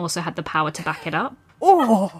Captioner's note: laughs